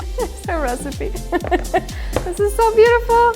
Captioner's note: giggles